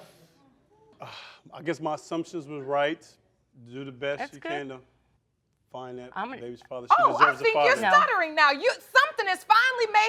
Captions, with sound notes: I guess my assumptions was right. You do the best you can, though. (BOTH STUTTERING) Baby deserves a father. Oh, I think you're stuttering now. Something has finally made him speechless!